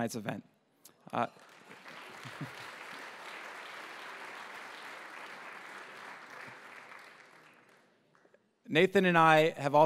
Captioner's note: applause